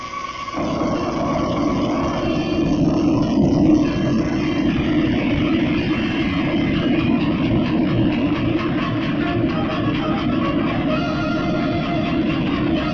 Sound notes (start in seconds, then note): 2.0 rumble